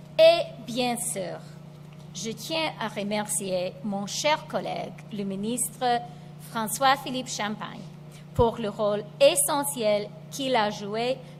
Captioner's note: speaks French